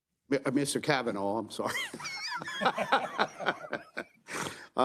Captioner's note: laughs